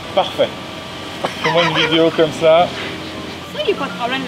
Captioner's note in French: rire